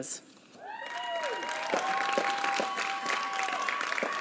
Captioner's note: applause